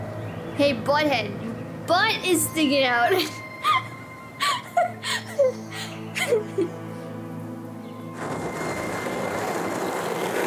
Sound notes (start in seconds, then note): 4.4 laughs